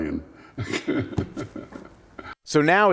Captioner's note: laughs